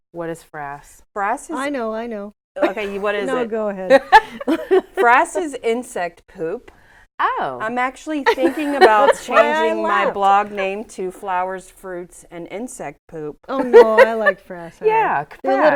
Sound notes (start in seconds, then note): 3.9 laughing; 13.6 laughs